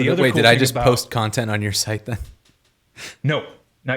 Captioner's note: chuckling